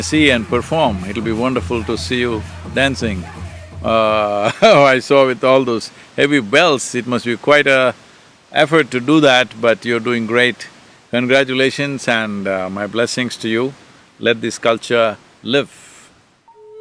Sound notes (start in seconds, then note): 3.9 laughs